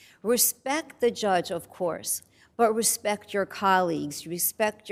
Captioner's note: none